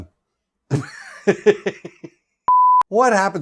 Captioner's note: laughs